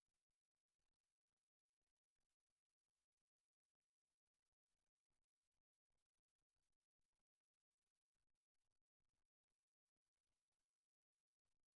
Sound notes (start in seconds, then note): none